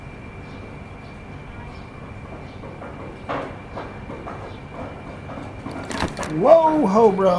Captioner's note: makes noises at cat